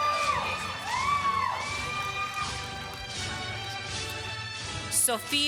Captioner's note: applause